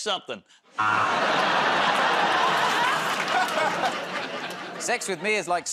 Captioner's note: laughter, buzzer